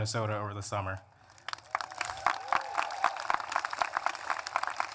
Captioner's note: applause